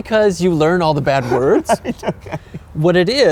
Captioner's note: laughing